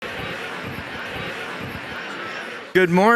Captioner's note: crowd chattering